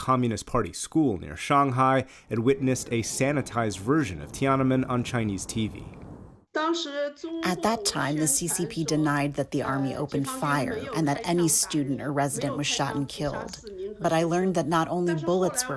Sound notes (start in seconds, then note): 7.0 through translator